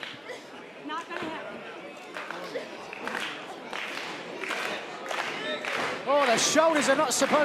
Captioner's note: clapping